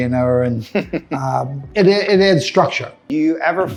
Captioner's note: laughing